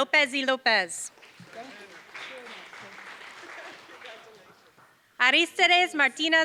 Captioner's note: applause